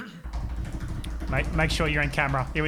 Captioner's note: banging on table